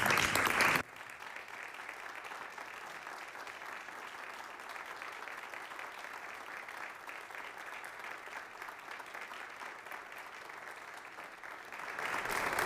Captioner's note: applause